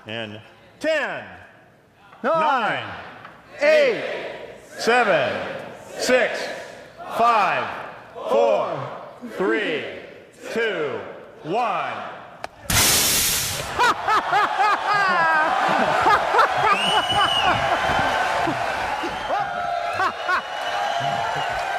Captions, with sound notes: 10... 9... 8... 7... 6... 5... 4... 3... 2... 1... (Laughter) (Whistling) (Applause)